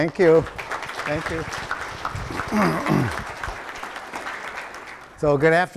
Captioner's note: audience applauding